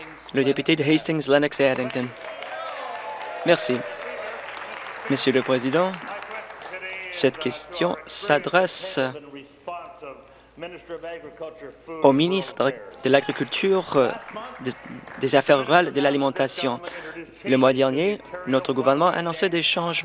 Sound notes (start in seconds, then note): 0.0 applause; 4.6 applause; 5.7 cheers